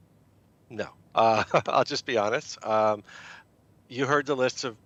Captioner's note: chuckling